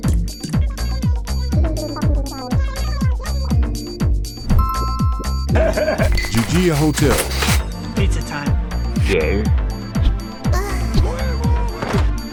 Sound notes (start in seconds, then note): 0.7 Animalese; 4.4 Animal Crossing SFX; 5.5 high giggle; 10.5 moan